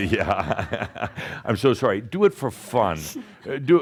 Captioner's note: chuckles